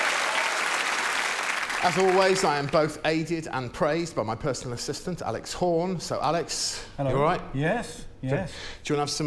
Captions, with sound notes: it's Josh Widdicombe. [applause] I genuinely once returned to my flat to find her in my bed